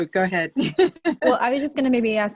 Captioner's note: laughs